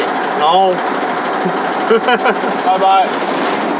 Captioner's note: laughing